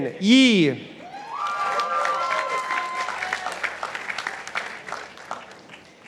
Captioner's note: participants applauding